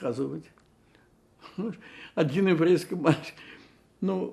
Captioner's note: laughing